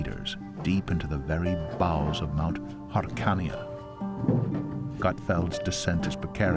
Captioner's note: speaking in Hebrew